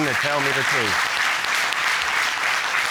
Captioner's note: applause